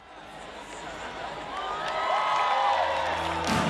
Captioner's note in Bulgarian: Аплодисменти от тълпата, пляскане